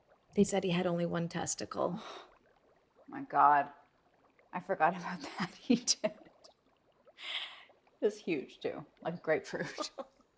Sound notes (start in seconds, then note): 7.2 gasps; 9.6 laughs